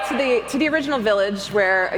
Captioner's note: audience howls